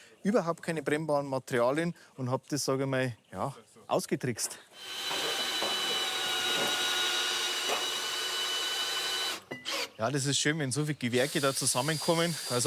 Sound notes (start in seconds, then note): 4.8 machine drone